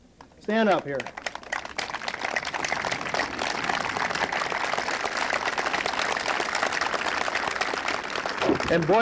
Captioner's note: applause